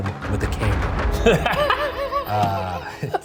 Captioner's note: Shane laughing